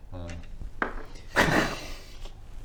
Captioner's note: unsympathetic laughter